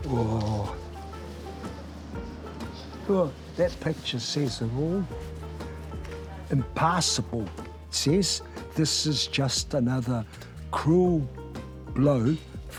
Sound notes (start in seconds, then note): 0.3 bright music; 3.2 sighs